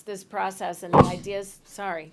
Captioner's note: hits mic